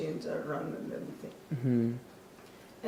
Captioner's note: hmm Hmm